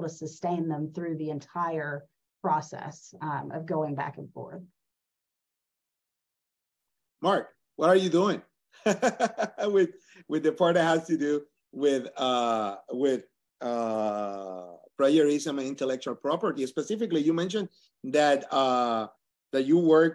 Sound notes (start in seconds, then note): 8.8 laugh